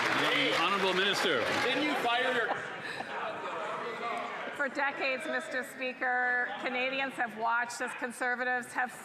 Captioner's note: applause